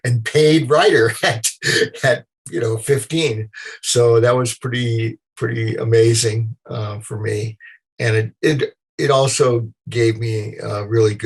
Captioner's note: laughter